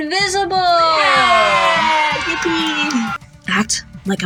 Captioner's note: cheering